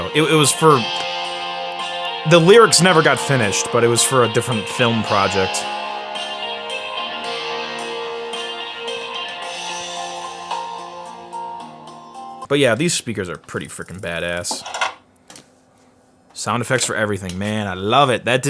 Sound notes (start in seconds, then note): 15.2 clicking